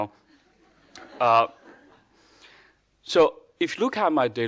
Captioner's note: audience laughing